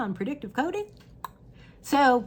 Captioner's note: clicking sound